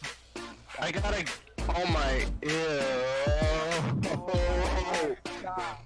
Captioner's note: merges from Ew to crying